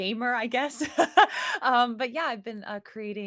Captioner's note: laughs